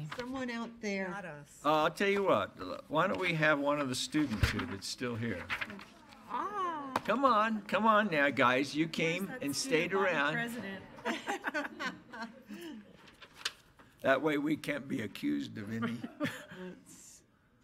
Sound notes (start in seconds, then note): 10.9 laughter